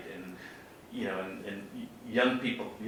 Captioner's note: none